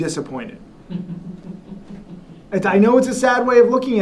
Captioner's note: woman laughs